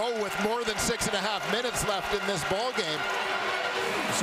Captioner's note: crowd Noise